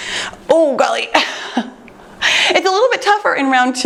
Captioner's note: chuckles